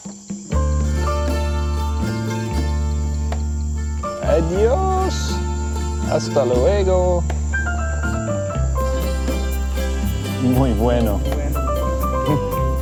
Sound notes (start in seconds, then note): 4.2 Spanish spoken audio